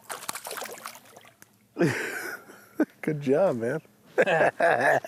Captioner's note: laughs